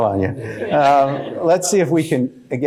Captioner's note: laughs; laughter